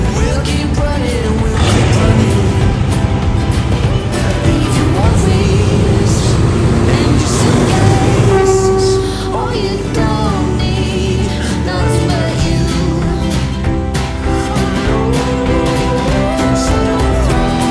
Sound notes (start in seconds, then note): 0.0 upbeat music; 8.2 train horn; 11.3 upbeat music